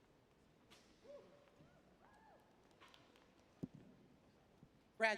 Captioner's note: cheering